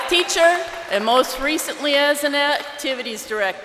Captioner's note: crowd cheering